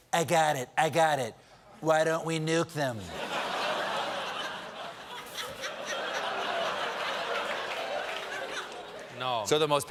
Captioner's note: laughter